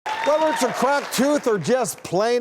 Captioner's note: cheering